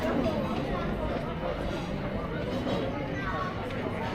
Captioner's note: people chattering